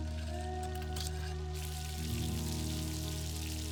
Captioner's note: skillet sizzles